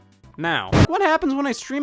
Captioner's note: server explosion